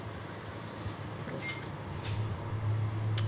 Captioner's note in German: Piepsen